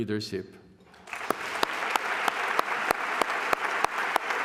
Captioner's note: applause